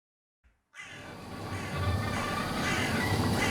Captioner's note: crows caw